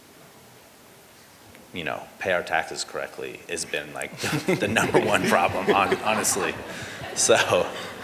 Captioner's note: laughter